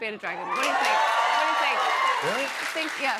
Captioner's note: cheers and applause